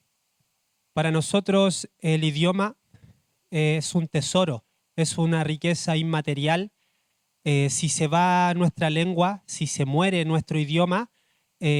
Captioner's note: speaking Spanish